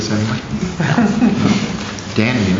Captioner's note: laughter